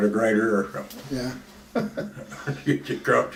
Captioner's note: laughs